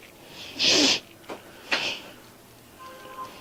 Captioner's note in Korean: 콧방귀